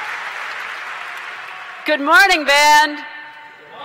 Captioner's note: cheers & Applause